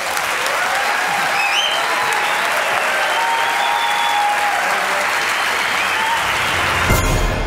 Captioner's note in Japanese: 喝采